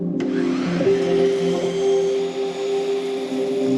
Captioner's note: tool whirring